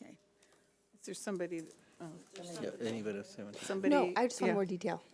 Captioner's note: overlapping chattering